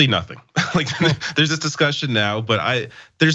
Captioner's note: laugh